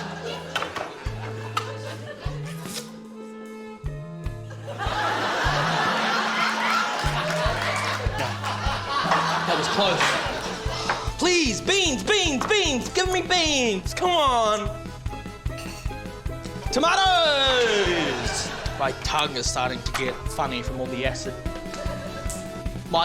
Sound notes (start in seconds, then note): 4.4 laughter; 10.9 sighs; 17.6 laughter